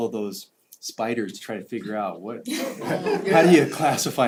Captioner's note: laugh